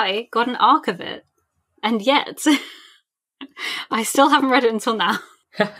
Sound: laughs

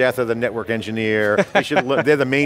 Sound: laughs

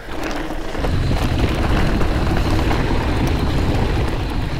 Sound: wind blows

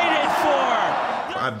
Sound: cheers and Applause

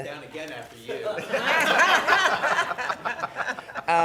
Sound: laughing

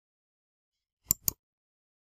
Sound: click

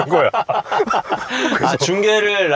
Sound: laughing

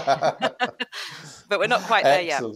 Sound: laughter

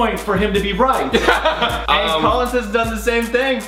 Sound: Collins laughs loudly

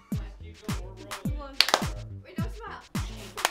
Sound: clap; clap; clap, clap

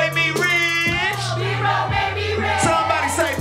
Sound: crowd

